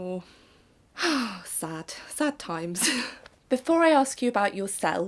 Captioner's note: sigh